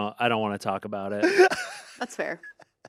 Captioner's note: Anthony laughs